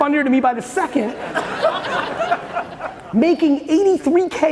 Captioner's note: audience laughing